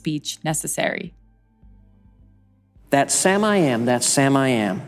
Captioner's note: soundbite of archived recording